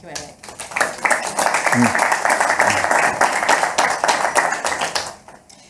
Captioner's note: audience applauding